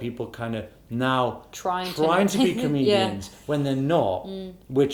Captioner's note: laughs